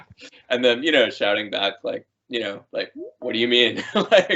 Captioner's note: laughing